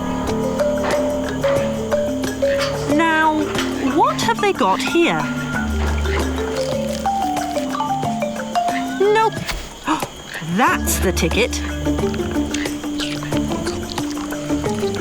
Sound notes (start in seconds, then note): 0.2 mischievous music; 11.6 gasping; 12.4 upbeat music